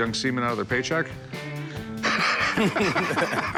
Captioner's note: laughter